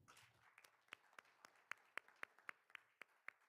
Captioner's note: all applauding